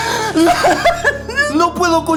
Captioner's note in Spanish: Lloriqueos